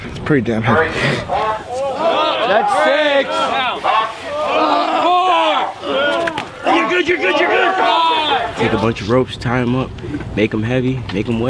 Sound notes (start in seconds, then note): 5.0 men grunting